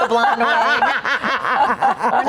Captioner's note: laughing